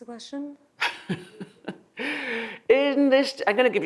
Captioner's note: laughs